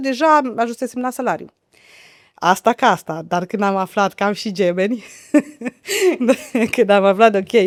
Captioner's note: laughter